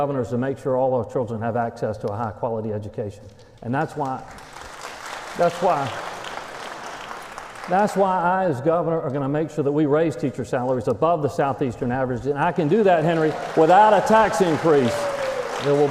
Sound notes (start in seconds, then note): 3.9 applause